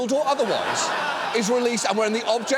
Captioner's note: audience laughs